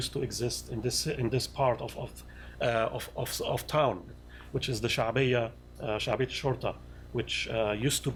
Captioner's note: non-english